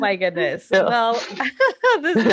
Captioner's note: laughing